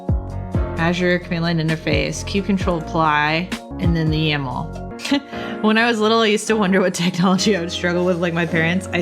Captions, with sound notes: Azure command-line interface, kubectl apply, and then the YAML. (laughs) When I was little, I used to wonder what technology I would struggle with, like my parents.